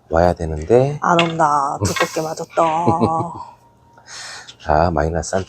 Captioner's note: laughs